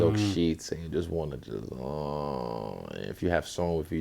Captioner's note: groans